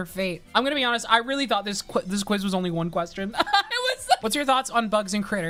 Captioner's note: laughs